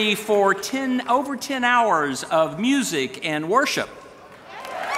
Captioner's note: applause